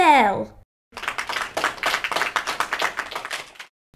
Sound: clapping

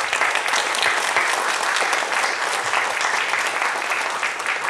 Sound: applause

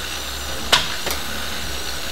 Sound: blender whirring

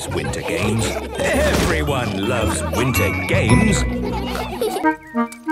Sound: laughter

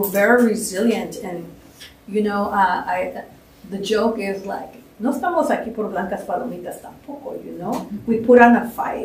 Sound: speaking spanish

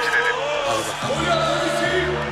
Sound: chants

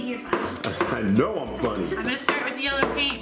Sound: laughs

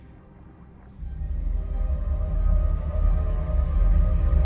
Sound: sounds of magic

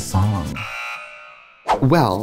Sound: buzzer

